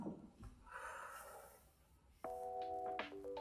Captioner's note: exhales